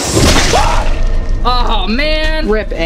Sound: screams

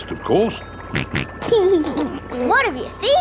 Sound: snorts and laughs

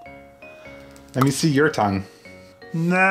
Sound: popping

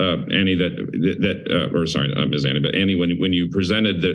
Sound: stutters

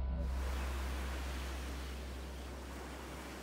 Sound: waves crash

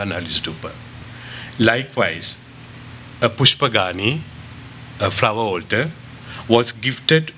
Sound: non-english

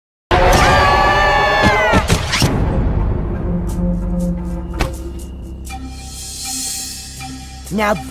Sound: screams

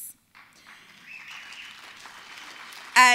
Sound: applause

